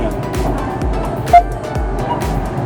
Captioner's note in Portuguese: beep